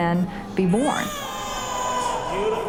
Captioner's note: baby crying